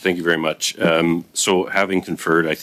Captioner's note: speaking in French